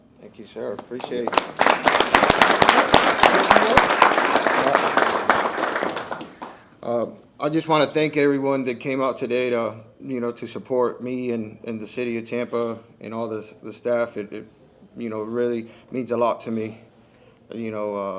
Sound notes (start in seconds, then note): 6.7 applause